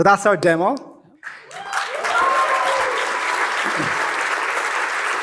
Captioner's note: applause